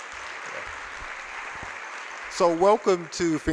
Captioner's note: applause